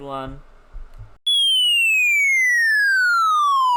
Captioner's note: electronic sounds sliding down a scale